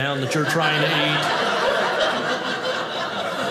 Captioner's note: audience laughing